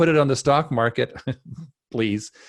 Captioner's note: laughs